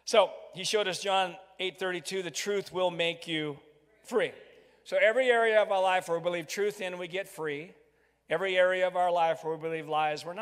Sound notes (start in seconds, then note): 4.4 crowd